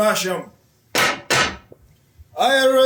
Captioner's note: sticks pound on ground twice